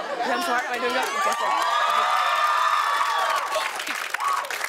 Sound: cheers and applause

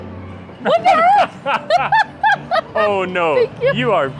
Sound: both laughing

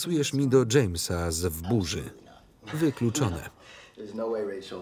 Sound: laughs

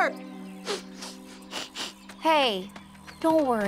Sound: boy sniffling

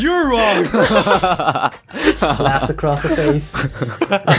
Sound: giggles; even more giggles

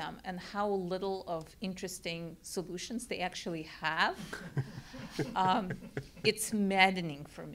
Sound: laugh

